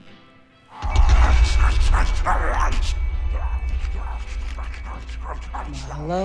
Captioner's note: zombie growling